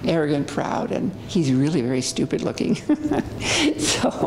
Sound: laughs

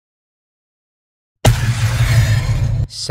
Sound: rocket jump noise

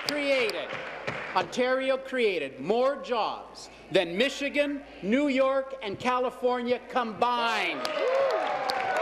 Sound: applause

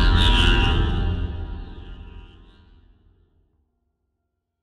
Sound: and then echoes away into silence

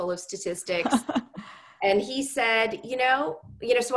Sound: laugh

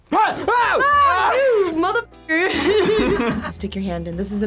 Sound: both scream; both laugh

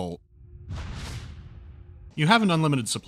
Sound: kinetic discharge

